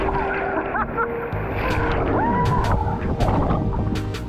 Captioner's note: laughing; upbeat music